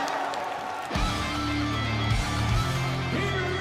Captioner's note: bell ringing